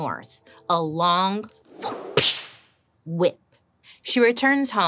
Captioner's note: imitating whip cracking